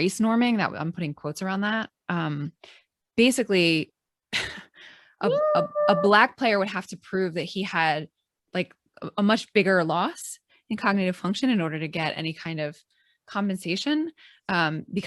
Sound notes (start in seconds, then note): 3.2 chuckles